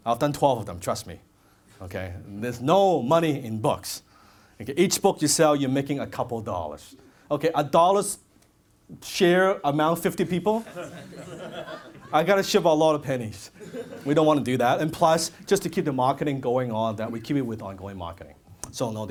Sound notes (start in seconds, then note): 10.3 audience laughs